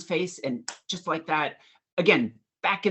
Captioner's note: clicks fingers